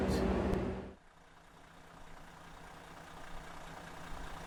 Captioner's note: engine rumbling